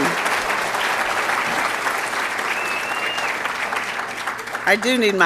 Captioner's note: applause